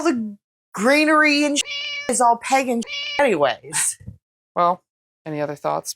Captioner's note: meow